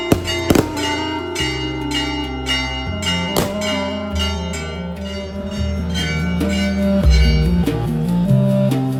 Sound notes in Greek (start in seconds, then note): 0.8 καμπανάκι